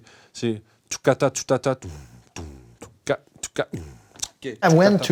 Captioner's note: vocal percussion